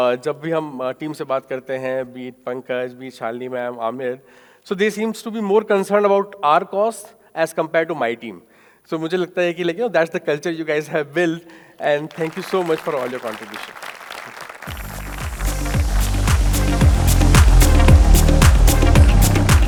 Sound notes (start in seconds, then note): 0.1 speaking in foreign language; 8.9 speaking in foreign language; 14.4 audience applauding; 14.6 upbeat music